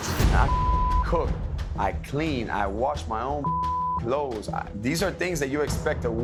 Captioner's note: beep